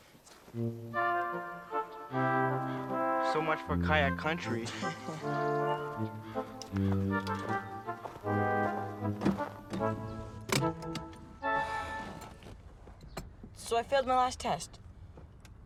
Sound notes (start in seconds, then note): 11.5 sighs